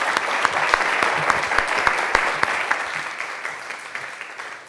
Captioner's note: audience clapping